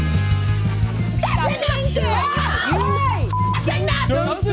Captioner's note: upbeat music; Kardashians shout over each other